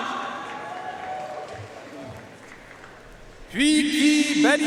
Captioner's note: audience cheering and applauding